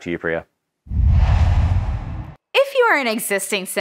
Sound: logo swooshes

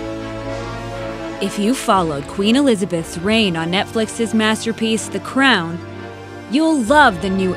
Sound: voiceover

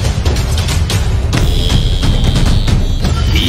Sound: Gruñe

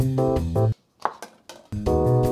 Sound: jazz music; dishes tapping; jazz music

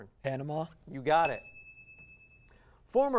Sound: ding

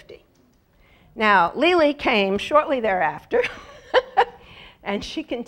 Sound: laugh

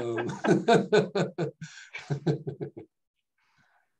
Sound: laughing

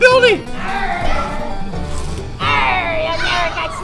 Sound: shouting

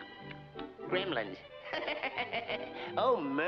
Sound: laughs

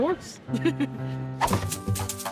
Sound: board thwack

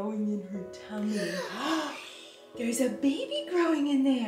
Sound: gasps

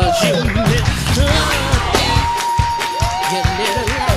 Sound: crowd claps and cheers

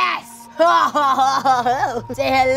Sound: laughing

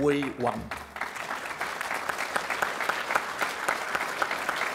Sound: applause

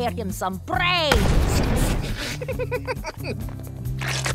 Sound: laughing

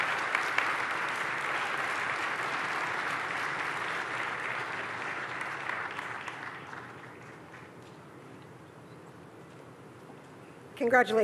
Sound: applause

